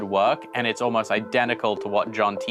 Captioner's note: none